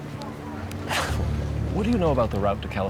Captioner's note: sighs